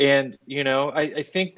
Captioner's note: laughing